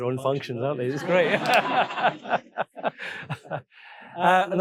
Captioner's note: audience laughing